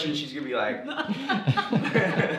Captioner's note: laughter